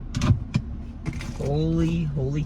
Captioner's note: shifter clicks